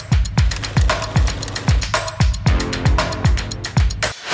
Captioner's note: film reel clicking